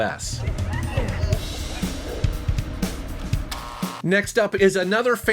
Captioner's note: creature shrieking